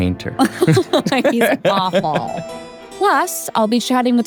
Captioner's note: both laughing